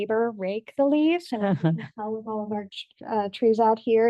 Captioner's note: board member laughs